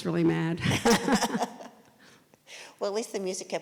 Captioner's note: laugh